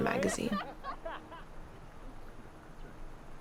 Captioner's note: group laughs